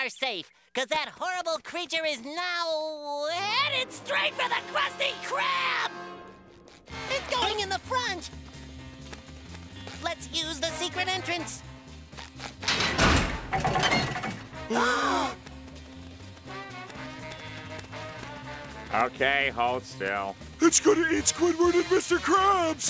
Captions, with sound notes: 'Cause that horrible creature is now... heading straight for the Krusty Krab! It's going in the front! Let's use the secret entrance. [gasping] Okay, hold still. It's gonna eat Squidward and Mr. Krabs!